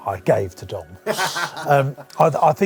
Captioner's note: laughing